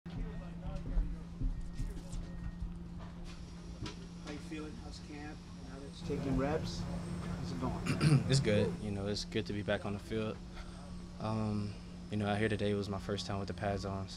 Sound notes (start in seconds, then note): 7.8 throat clearing